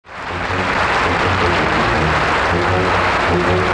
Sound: audience clapping

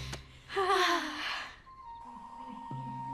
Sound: sigh

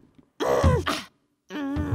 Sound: grunting

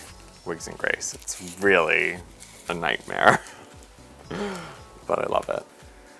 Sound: laughs

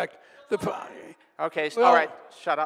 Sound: audience member shouting

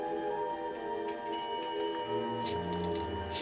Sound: bell Dings

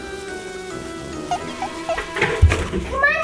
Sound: audio squeaking

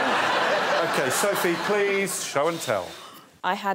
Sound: laughter

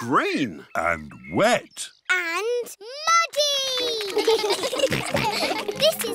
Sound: children giggle

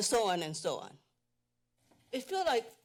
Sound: pause

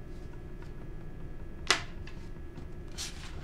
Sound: pencil scratching

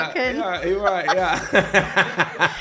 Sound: laughs

